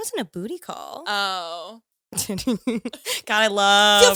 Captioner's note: laughs